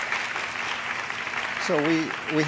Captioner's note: applause